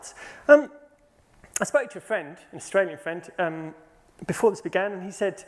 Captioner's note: none